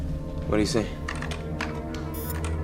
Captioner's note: typing; beeps